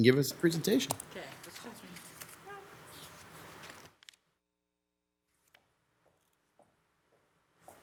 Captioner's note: speaking off mic